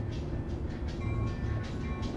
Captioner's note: tram bell ringing